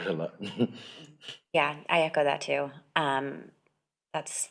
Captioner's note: chuckles